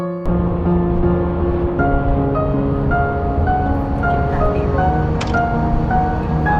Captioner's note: soft piano music; people chattering